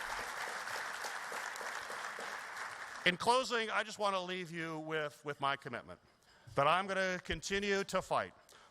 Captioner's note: applause